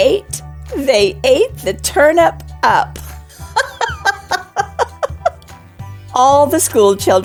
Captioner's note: laughter